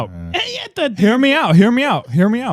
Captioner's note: speaking In Foreign Language